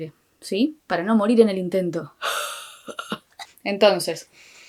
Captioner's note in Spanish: sonidos de ahogo y ...algo